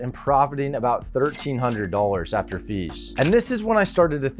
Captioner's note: cash register dings